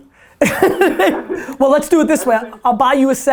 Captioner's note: laughs